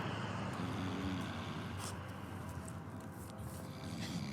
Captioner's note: snoring